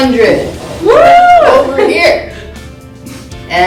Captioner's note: cheering